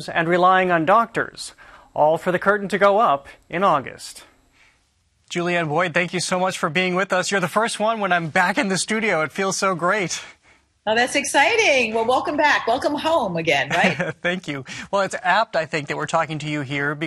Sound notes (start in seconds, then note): 13.6 chuckles